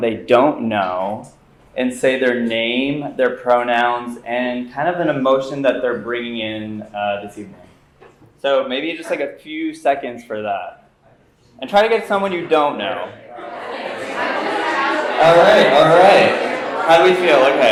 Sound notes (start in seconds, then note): 12.3 background chatter